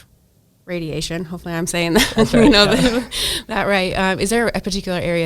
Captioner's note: laughs